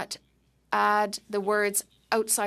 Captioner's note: speaking French